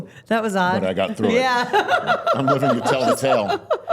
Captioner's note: laughs